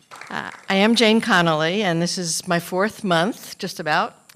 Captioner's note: applause